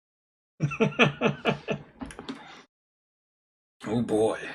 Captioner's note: laughs